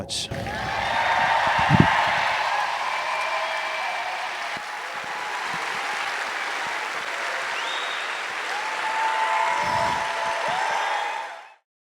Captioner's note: applause